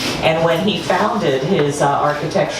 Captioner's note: none